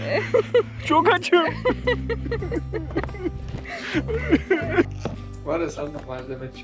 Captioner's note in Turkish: kahkaha